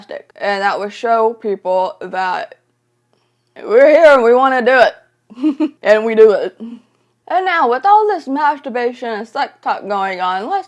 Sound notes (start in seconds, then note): 5.4 laughs